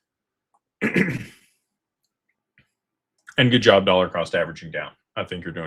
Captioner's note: clears throat